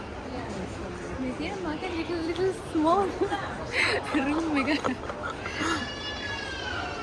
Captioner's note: haha